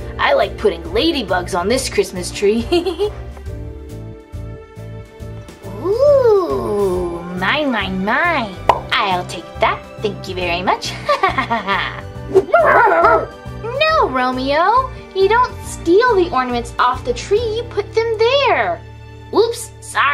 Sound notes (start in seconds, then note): 3.9 pleasant music; 12.3 dogs barking